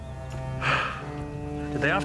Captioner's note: sighs